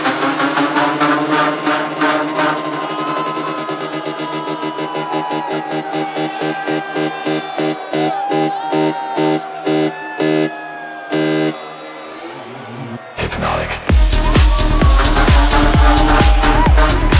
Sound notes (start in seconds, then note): 0.0 deep rhythmic beeping; 4.6 deep rhythmic beeping gradually slows; 13.4 high-energy techno music; 16.9 high-energy techno music continues